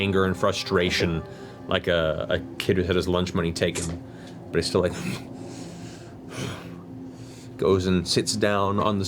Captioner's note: angry breathing